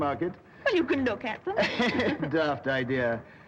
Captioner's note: both chuckle